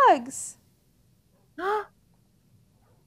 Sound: bar gasps

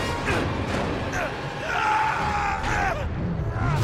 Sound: scream

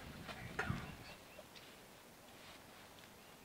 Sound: whispers

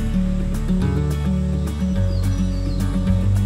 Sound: birds chirping

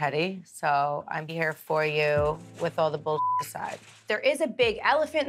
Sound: beep

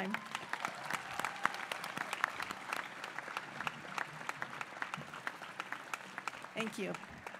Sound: applause

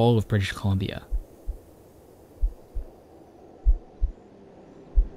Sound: heart beating; soothing music

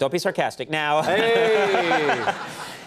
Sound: laughter

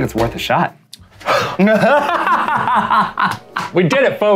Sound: laughing

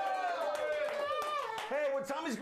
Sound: audience cheering

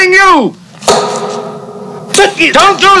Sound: loud bang

